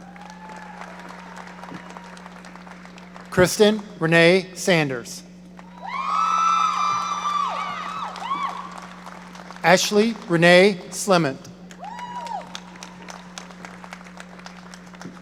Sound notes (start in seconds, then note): 0.0 audience applauding; 5.6 audience cheering; 11.7 audience cheering